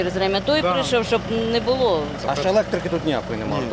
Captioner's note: crowd